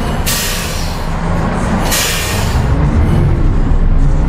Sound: machinery sputters

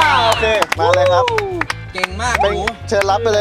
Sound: applauding

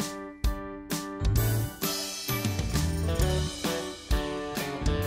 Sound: none

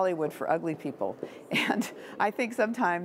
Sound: laughter

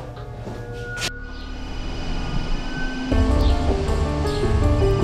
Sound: phone ringing

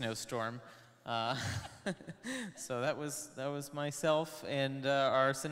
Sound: laughs

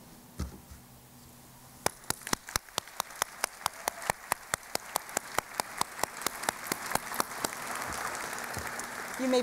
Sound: applause

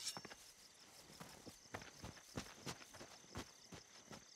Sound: crickets chirping

